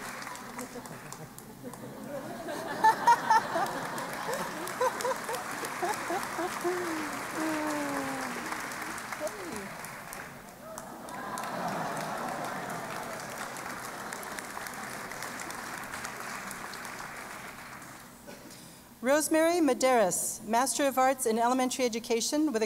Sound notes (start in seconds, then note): 0.6 laughter; 4.1 applause